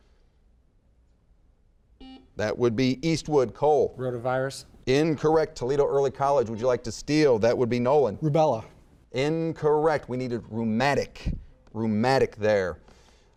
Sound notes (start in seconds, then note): 2.0 buzzer beeping